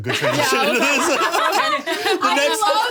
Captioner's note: all laughing